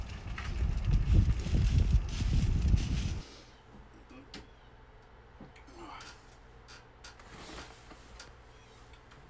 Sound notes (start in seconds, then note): 5.6 grunting